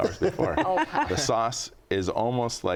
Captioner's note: guests laugh